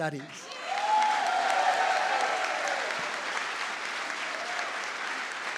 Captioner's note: audience applauds